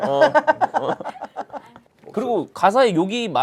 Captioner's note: laughing